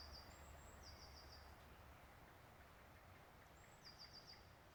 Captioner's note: birds singing